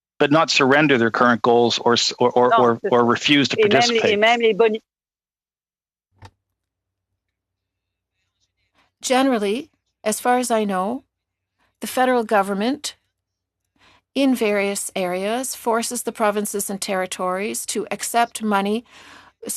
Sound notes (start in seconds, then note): 11.9 speaking French